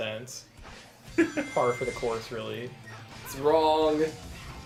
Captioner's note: giggles